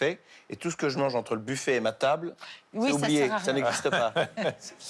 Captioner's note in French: rires